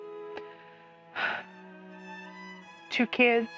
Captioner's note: deep sigh